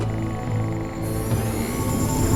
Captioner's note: electric sizzle building; screen tapping